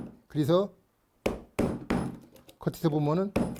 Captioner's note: hammering sound